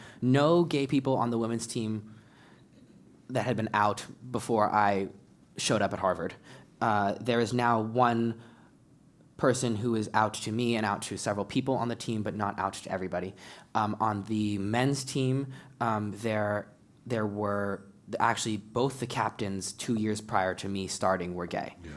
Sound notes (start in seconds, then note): none